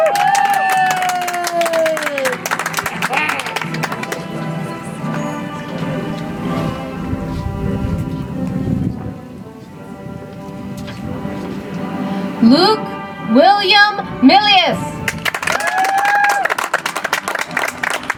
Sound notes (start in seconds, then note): 3.1 audience applauds; 7.8 soft music